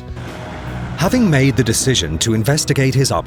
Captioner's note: voiceover